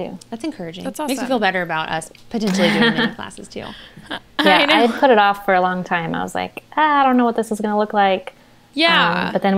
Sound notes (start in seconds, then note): 4.4 they laugh